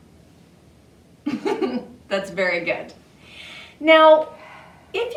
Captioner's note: giggles